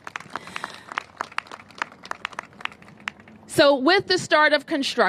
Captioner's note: applause